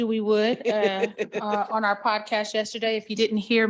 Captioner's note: participants laughing